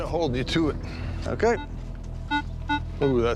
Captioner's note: beeping